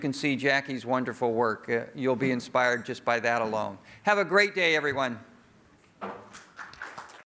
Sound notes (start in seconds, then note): 6.2 applause